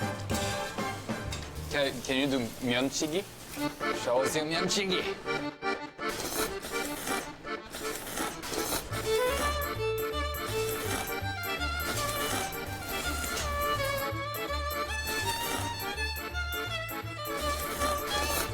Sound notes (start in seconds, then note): 6.0 naengmyeon slurp by an enthusiast of 9 years